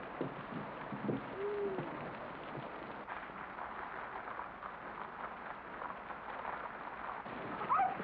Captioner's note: rain patters